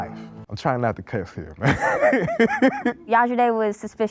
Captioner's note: laughing